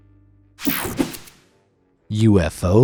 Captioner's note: air whooshing